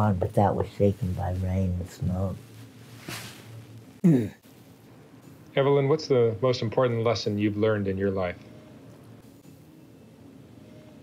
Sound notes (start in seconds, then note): 4.0 clears throat